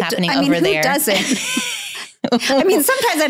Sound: laughs

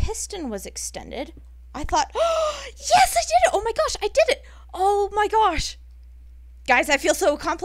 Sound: long gasp

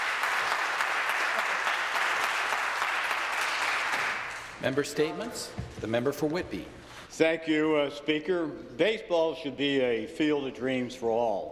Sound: some applause

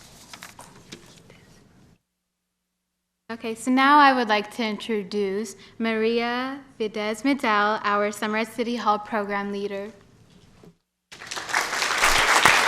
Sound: applause

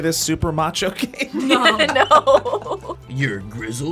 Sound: laughs

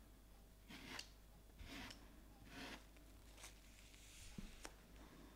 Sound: spatula scratching

